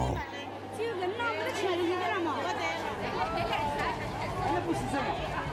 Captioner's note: speaking in foreign language